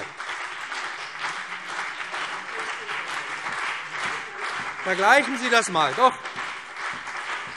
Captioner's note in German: Beifall BÜNDNIS 90/DIE GRÜNEN und CDU